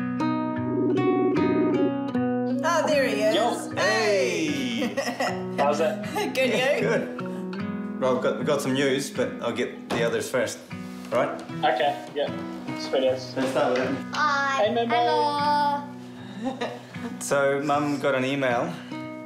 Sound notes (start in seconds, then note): 16.3 chuckles